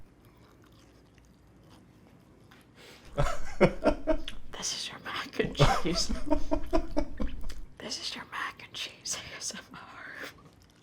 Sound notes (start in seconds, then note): 0.2 crunches continue; 3.1 laughs; 4.7 whispered; 5.4 laughs; 7.1 whispered